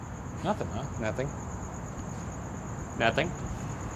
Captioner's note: none